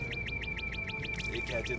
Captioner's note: alarm blaring